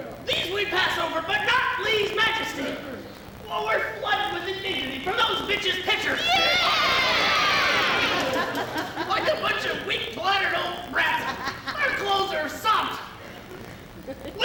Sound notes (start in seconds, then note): 6.2 women cheering